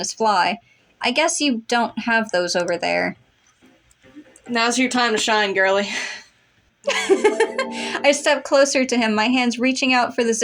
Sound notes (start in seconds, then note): 6.0 sigh; 6.9 giggle